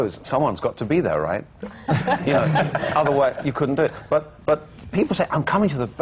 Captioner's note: laughter